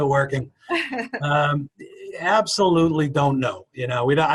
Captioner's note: laughing